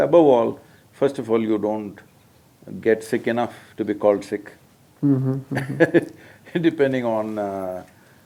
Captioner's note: laughs